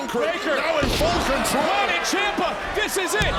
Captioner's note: overlapping chatter